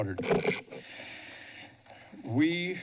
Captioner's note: breathes deeply